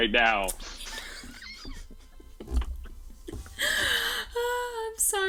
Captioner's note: cast laughs